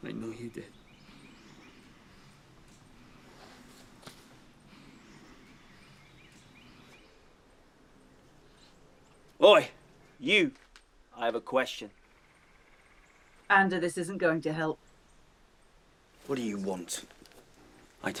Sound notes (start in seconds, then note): 2.3 birds chirping